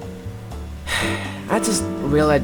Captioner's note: sigh